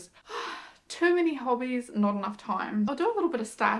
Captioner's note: sighs